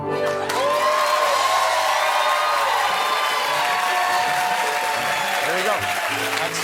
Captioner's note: cheers and applause